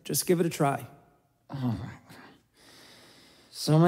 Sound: some weird grunt/groan/mumble of something

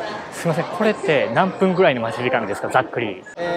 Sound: SPEAKS IN JAPANESE : How long the waiting time will be?

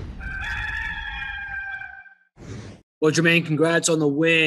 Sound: rooster crows

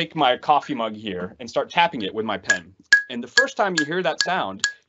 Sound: pen tapping

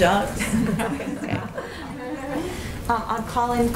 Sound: laughter

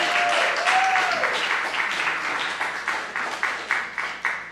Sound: applause

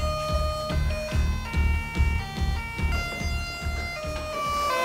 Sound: the dramatic doorbell they hit at 8 PM

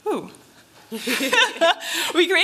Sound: laughter

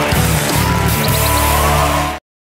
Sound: upbeat rock music; audience cheering; bird chirps

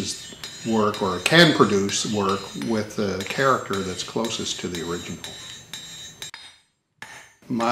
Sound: sound of hammering tool continues

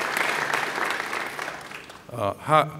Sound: applause

